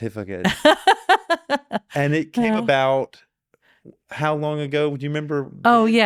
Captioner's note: laughing